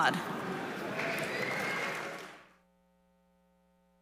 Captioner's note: audience applauding